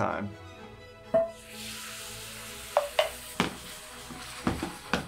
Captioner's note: milk sizzling